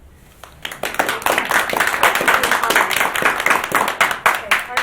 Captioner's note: group applauds